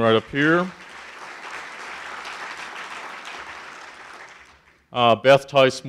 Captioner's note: audience applauding